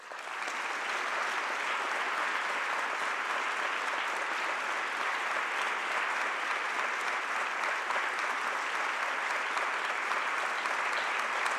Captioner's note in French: le public applaudit